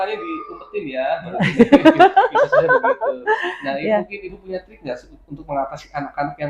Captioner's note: laughs